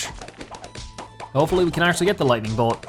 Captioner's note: balloons popping